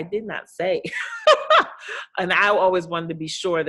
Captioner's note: laughing